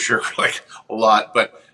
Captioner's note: chuckles